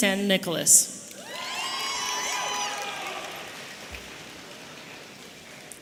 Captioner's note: audience cheering